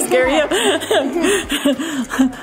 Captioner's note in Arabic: يضحك كلاهما